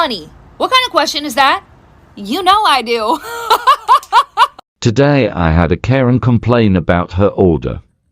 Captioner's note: laughs